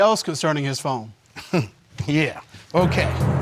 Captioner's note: chuckles